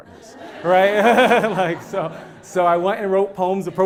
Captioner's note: laugh